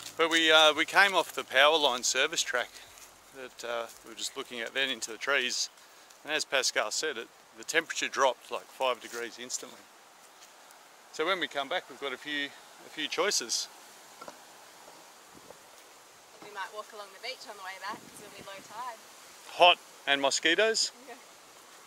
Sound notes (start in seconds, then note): 9.7 water rushing